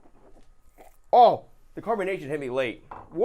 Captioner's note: spitting